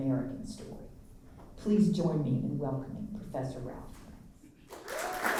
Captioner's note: applause